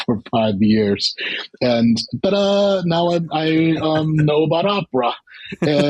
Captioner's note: laughter